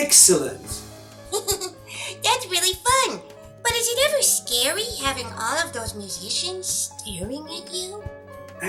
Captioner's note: laughs